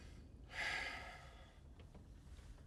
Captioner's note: sighs